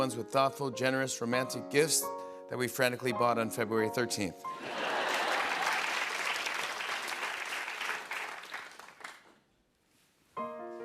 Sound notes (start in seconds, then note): 4.6 laughter